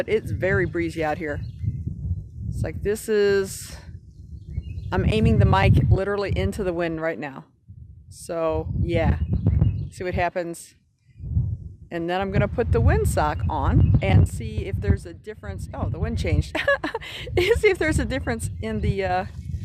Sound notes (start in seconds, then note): 11.0 wind blowing; 16.5 chuckles